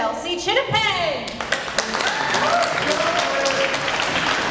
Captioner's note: applause